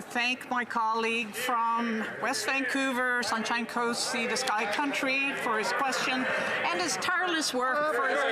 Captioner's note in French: voix de l'interprète